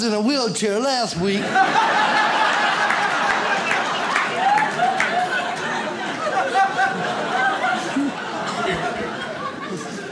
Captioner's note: audience laughs